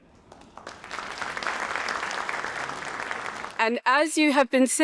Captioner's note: audience applauding